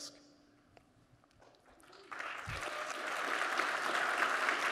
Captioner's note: applause